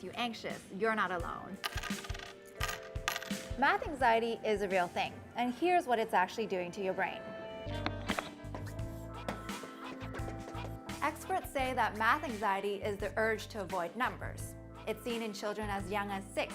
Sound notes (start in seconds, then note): 1.6 clinking